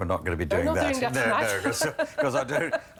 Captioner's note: laughs